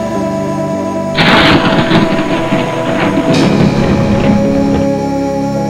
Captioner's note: lightning cracks